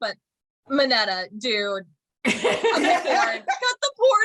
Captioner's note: agreement and laughter